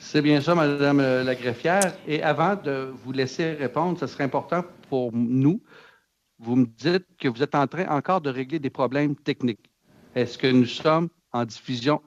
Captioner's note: speaking French